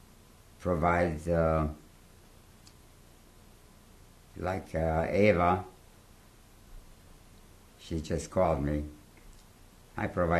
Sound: pauses for 3 seconds

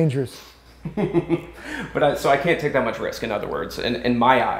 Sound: laughs

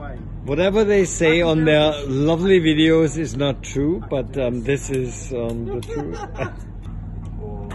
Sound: laughter

